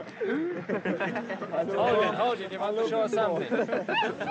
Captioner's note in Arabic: ضجيج القرد; lughter